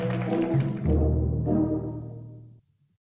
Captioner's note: clapping and cheering fades out, along with the ending crawl and all audio